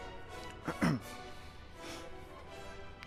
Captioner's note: clears throat